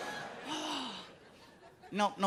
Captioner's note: laughing; sighs